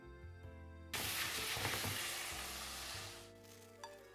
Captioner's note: sizzling sound